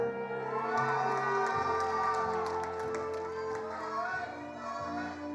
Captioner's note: attendees applauding